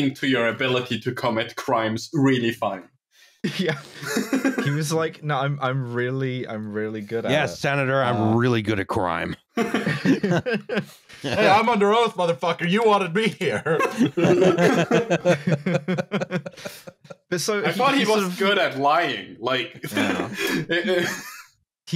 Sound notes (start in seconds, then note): 3.4 laughs; 9.4 laughter; 13.5 laughter